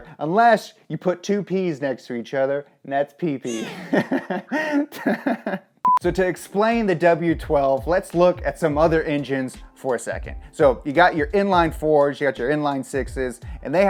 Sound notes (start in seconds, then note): 3.4 laughs; 4.0 beep